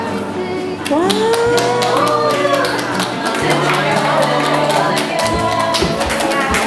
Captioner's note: audience clapping